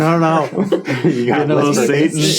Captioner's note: group chuckling